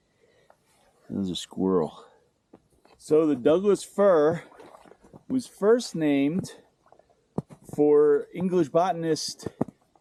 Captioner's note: snow crunching underfoot